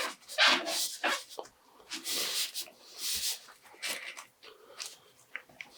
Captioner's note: rubbing